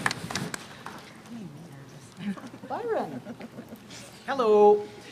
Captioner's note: applause